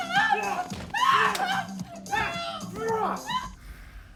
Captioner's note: wife scream; Gino grunts wildly; Nash breathes heavily